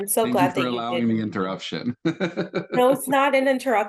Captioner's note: laughs